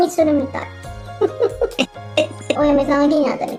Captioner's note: laughs